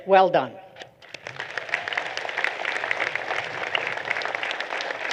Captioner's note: applause